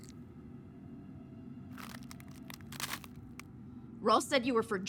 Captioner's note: bones crunching